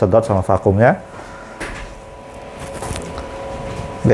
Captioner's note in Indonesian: suara mesin printer